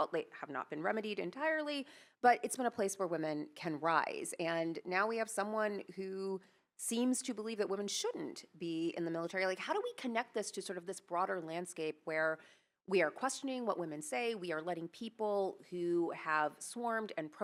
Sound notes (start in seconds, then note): none